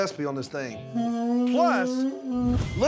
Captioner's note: horn sound